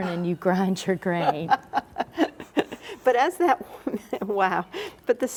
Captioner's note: laughs